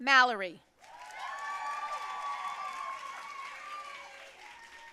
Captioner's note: audience cheering and applauding